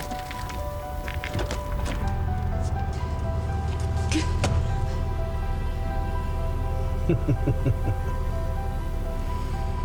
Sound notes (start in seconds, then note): 0.2 tense music continues; 4.3 door thudding; 6.9 driver laughs